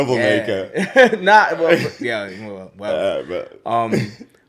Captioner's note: laughs; laughs